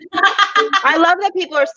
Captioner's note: laughs